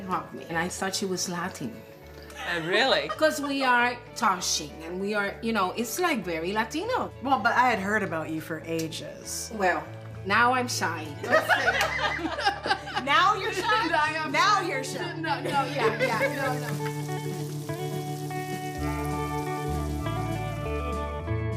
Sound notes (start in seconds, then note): 2.6 laughing; 11.3 all laughing; 15.4 oil sizzling; 18.7 upbeat music